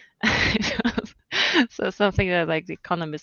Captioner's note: laughs